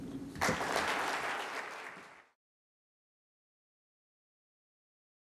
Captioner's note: people clapping